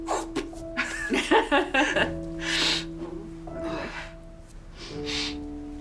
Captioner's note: laughter followed by sniff and big release of breath